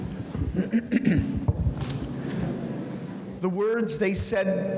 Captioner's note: clears throat